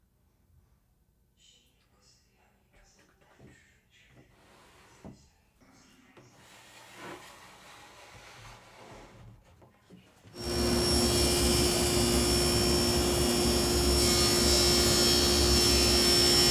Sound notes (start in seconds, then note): 10.3 equipment whirring